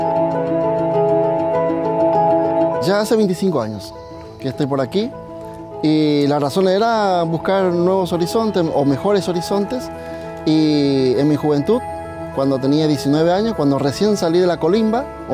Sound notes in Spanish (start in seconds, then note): 2.7 Voz de hombre